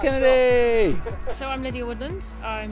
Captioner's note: laughs